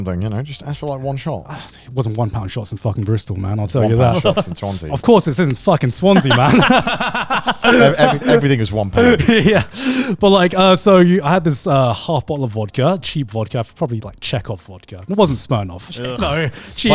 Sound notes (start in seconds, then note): 1.5 sighs; 6.1 all laughing quickly